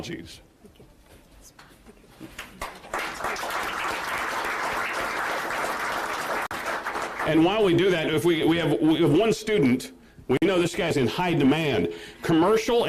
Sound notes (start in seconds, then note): 2.3 applause